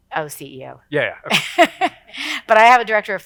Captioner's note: laughs